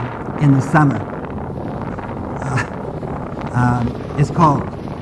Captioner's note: wind blowing